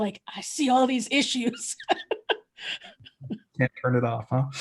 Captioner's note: laughing